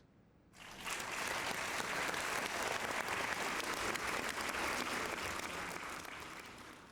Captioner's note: applause